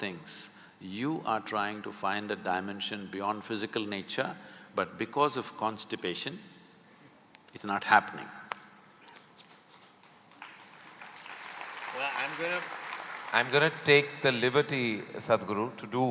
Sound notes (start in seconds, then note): 8.6 laughs; 10.2 applause